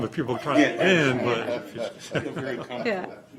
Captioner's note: laughter